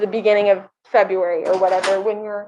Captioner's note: door closes